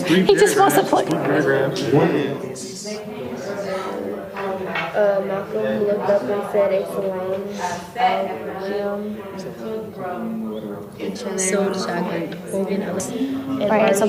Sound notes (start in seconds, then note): 2.5 students talking with each other